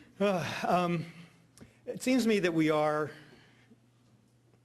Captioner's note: sighs